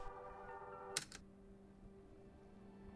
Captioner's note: click; thoughtful music